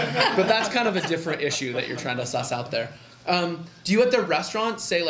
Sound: laughter

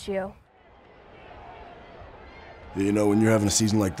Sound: crowd yelling

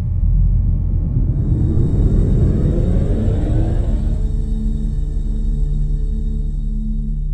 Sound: power charging on

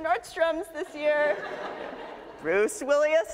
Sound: audience laughs

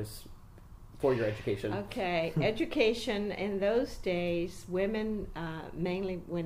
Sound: makes amused noise

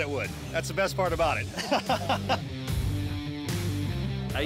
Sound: laughter

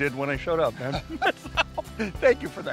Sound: laughing

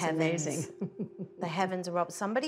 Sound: laughs

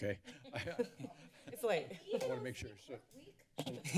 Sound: laughter

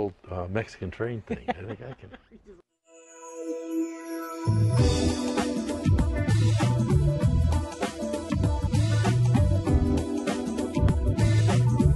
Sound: laughter

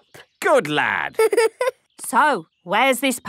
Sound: giggling

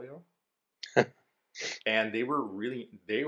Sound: laughs

